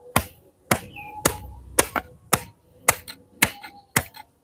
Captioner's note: sound of glass being hit